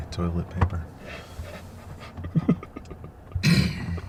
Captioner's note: laughing